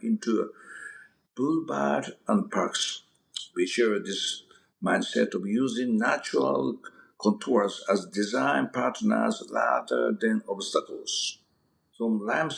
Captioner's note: mouth smack